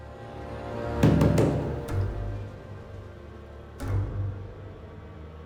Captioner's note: tense music; knocking on door